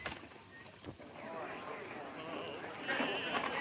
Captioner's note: people chattering